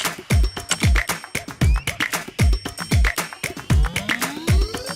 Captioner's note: keyboard clicking; bell tinging